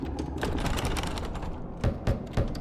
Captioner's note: door bangs; door latch jiggles; door knocking